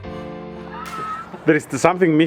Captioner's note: group laughing